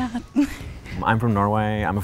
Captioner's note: laughs